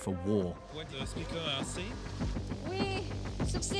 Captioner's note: speaking foreign language